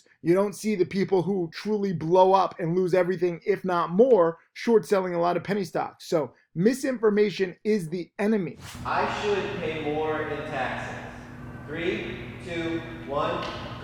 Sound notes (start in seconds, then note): 8.5 air whooshes